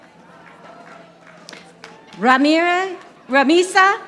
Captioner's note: audience applauding